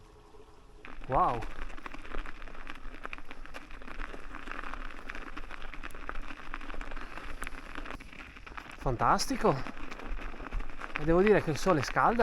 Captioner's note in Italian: Applauso